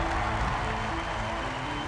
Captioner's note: applause; cheering